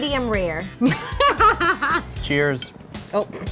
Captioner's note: laughter